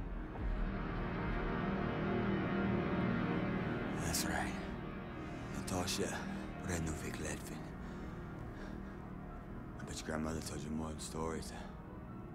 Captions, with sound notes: (dramatic music) That's right. (speaking foreign language) I bet your grandmother told you more than stories.